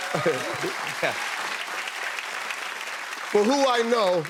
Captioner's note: applause